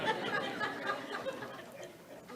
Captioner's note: audience laughs